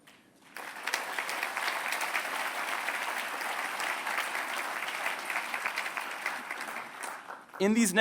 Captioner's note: applause